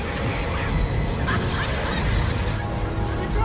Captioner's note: sinister female laughter